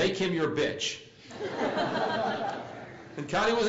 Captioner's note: laugh